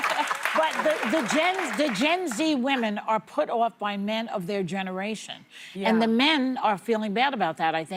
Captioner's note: applause